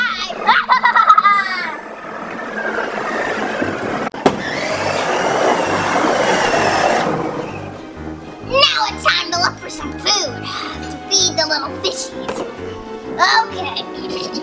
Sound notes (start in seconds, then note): 0.4 evil laughs; 4.6 tank engine revs